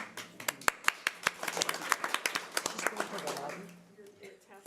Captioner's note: audience applause